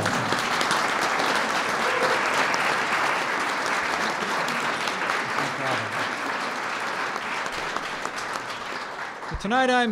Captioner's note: applause